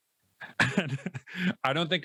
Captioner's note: laughs